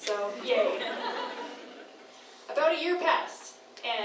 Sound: crowd laughs

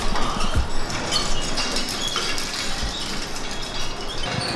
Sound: sound of chains ASMR

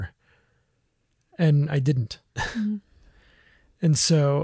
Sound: laughs

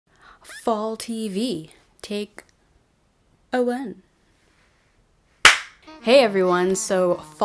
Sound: clap

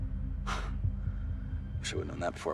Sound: scoffs

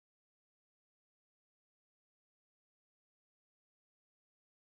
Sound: none

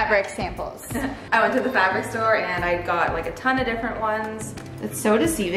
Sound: laughs

